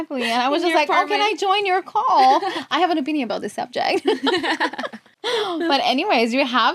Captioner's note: laughs